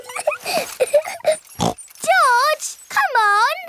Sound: laughs and snorts

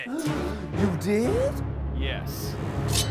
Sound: gasps

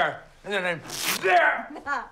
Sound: ripping sound

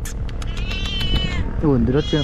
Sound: meow

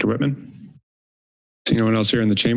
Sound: silence

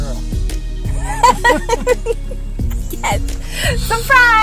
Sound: both laugh

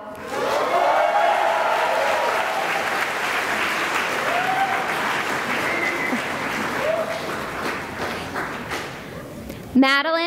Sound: cheering and applause

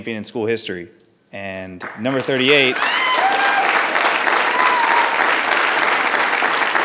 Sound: audience applause

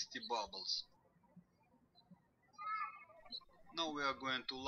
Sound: birds chirping

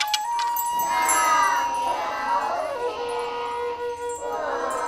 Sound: speaking Chinese

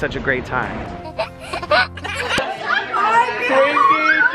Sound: laughing

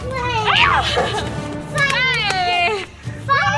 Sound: mom exclaims

